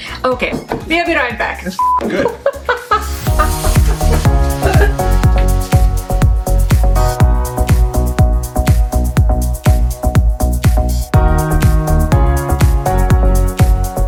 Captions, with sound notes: - Okay, we'll be right back. - That's (beep) good. (laughing)